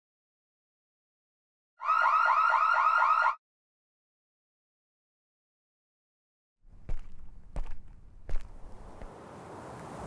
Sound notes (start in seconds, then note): 1.8 car alarm; 6.7 footsteps